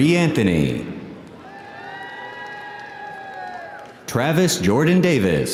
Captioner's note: audience applauding; audience cheering